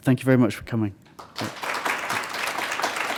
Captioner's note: applause